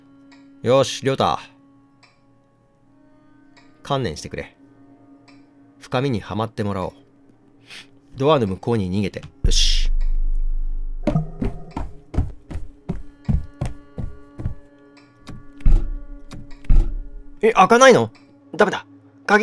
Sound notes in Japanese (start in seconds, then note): 11.1 走る足音：ﾄﾝ ﾄﾝ ﾄﾝ ﾄﾝ！; 15.2 ノブを動かす音：ｶﾞﾁｬ…